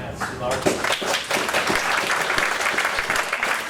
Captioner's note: applause